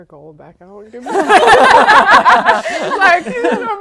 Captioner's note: laughing